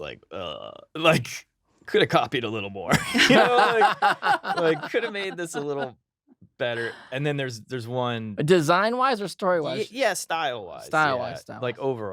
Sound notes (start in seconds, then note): 3.0 laughing